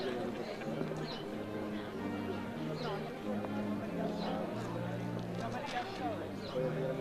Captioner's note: overlapping chatter; slow brass music